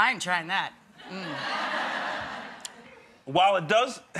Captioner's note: audience laughing